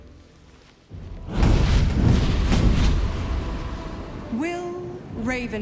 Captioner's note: fire flaring